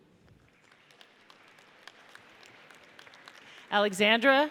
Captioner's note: audience applauds